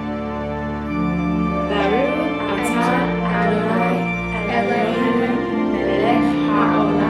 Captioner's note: all three in Hebrew; in Hebrew